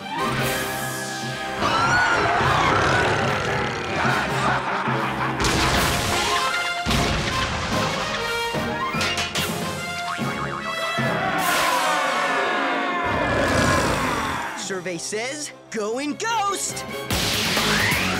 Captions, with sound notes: [roaring] [laughing] [screaming] [growling] Survey says, going ghost!